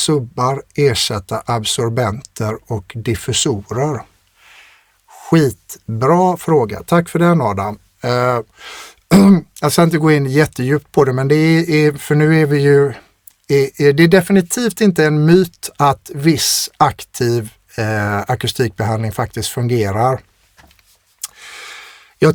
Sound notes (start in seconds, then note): 9.1 clears throat; 21.1 scoffs